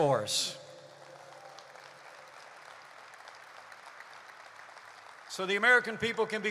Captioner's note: applause